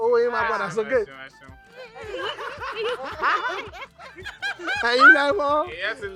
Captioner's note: laughs